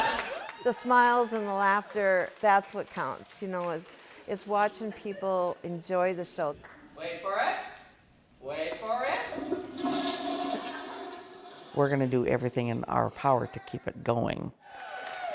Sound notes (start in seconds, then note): 9.3 toilet gurgling; 14.8 audience applauding